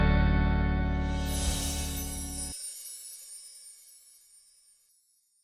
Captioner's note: chimes tinkling